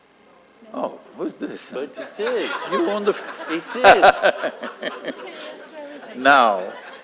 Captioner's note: laughter